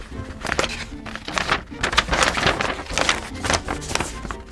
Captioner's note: gentle music continues; paper ruffling